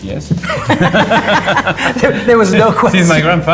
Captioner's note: laughter